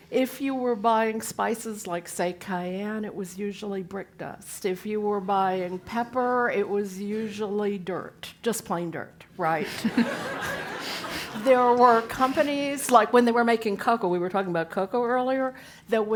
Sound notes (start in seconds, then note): 9.6 laugh